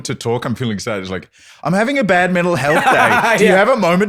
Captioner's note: laughing